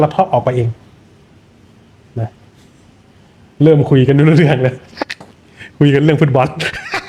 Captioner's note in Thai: เสียงหัวเราะ